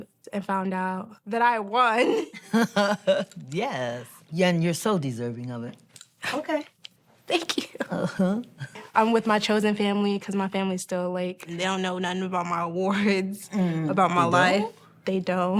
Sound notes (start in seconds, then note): 2.4 laughs